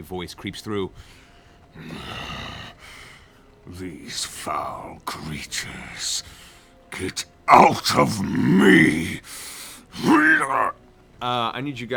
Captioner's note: straining sound